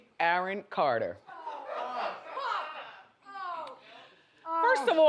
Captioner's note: audience jeers